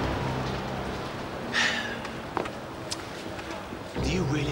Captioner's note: Phil sighing heavily